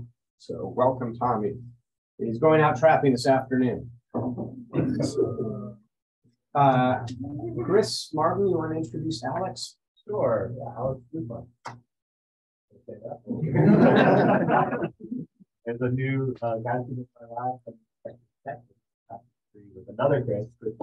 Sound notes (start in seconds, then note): 13.3 laughter